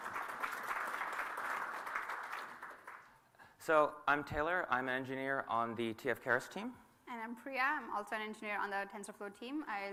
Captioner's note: applause